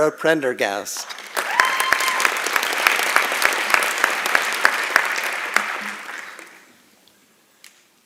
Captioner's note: applause and Cheering